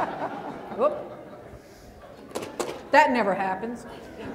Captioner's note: laughter